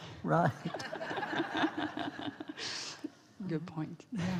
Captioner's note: laughs from the audience